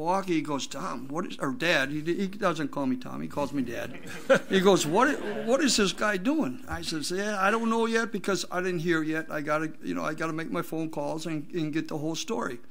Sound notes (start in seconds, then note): 3.7 group laughs